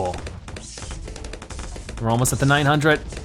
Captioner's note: weapons firing